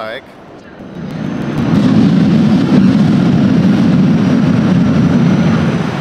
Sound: sound of train arriving

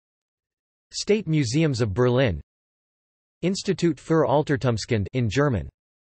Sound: in German

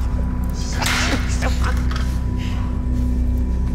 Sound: laughter

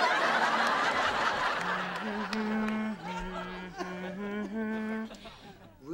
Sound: humming "lullaby"

